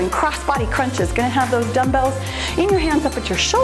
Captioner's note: timer beeps